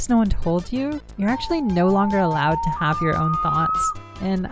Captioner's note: slowed-down-wolf howl